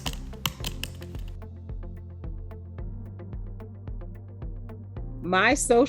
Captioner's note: typing